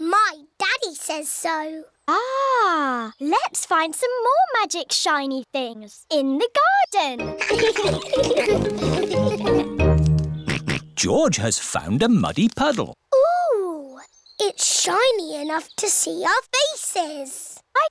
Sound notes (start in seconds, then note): 7.3 all laugh; 10.7 snorts